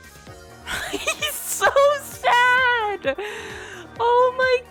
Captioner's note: laughter